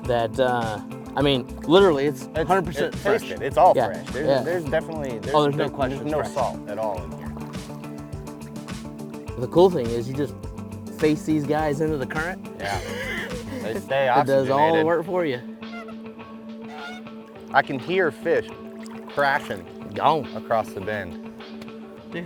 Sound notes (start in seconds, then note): 12.6 laughs; 16.6 bird squawking